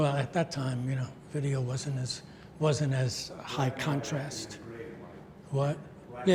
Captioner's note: mumbles